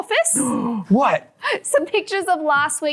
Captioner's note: gasps